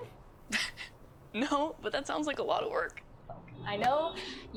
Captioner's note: laughs